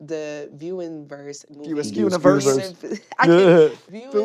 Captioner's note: chuckles